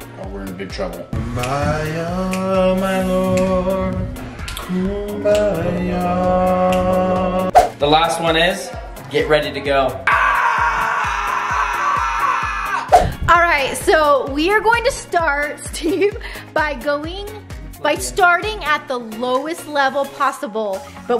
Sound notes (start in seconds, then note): 1.4 sing; 10.0 screams